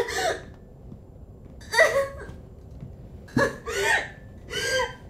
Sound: intense sobbing continues

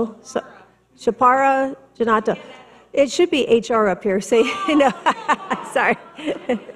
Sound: laughs

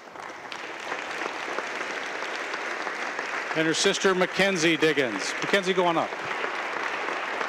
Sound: applause

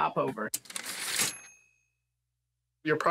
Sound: typewriter ding

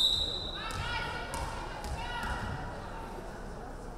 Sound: referee whistling

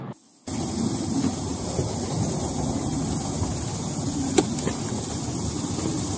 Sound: car noise; car door opening

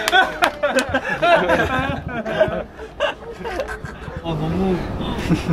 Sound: sobbing

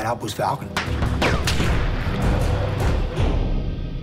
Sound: gunfire

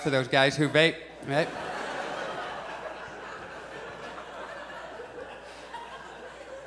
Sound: audience laughs

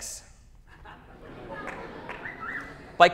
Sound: laughter, wolf-whistle

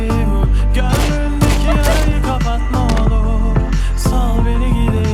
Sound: gunfire

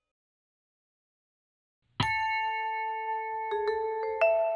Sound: single note rings

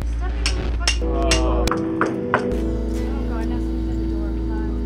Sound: drummer clicks sticks. A Knock at the door

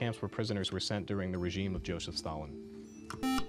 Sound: buzzer

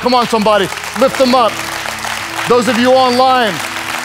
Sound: audience claps

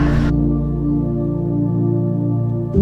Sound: laughing; relaxed music

